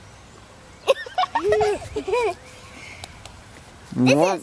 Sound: giggles

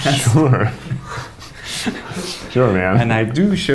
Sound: laughing

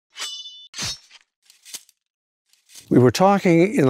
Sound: sword tinging

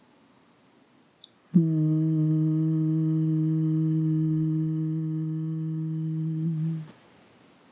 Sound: humming sound

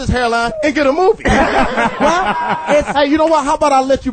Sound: all laugh

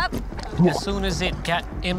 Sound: gulping

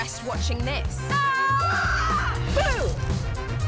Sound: yells

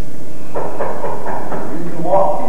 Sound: knocking

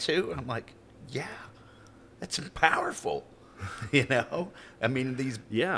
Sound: chuckling

